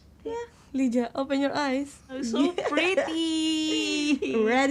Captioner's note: laughs